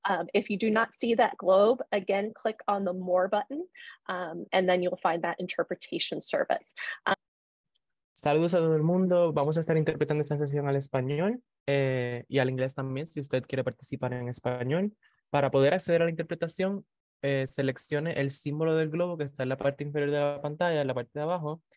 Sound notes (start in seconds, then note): 11.0 speaking in Spanish